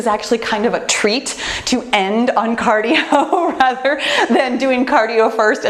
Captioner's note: laughs